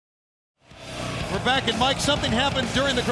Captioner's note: crowd cheering